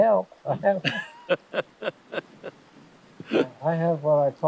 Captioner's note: both laughing